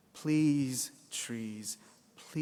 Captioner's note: none